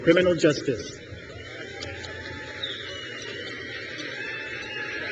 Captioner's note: crowd cheers